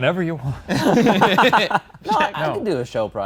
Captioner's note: everyone laughs